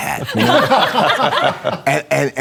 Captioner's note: laughter